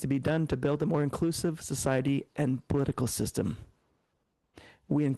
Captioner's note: speaking French